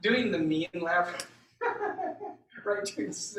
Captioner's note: high pitched laugh